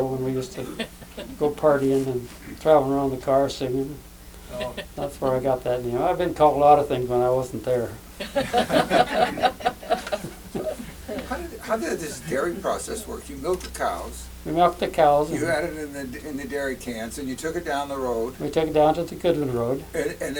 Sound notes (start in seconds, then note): 8.2 laughter